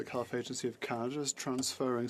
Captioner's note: speaking French